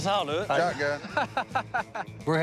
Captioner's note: laughs